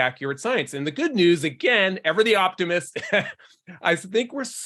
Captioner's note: laughs